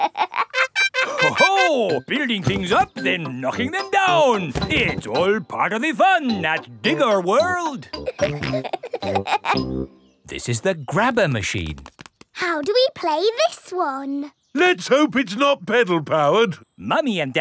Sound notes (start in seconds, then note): 0.0 laughs; 7.9 peppa and george laughing